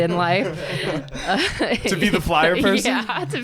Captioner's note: both laughing